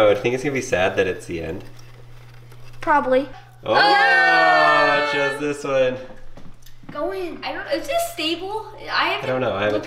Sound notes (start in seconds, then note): 3.6 cheering